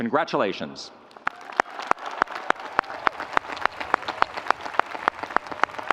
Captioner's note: audience applauding